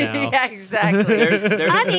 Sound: chuckling

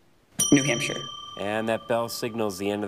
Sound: bell ringing

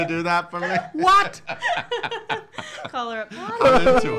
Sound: laughing

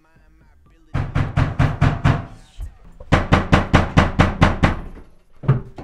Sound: loud knocks on the front door

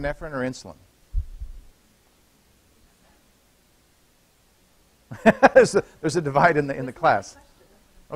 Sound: laughter

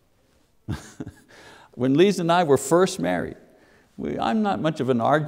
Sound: chuckling

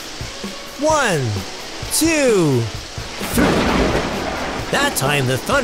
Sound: sound of thunder

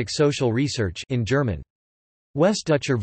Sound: in German

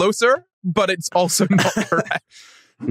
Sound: laughs

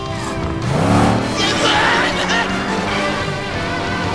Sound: screaming

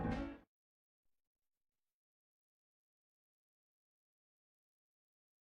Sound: silence

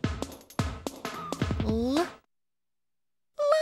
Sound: makes "l" sound

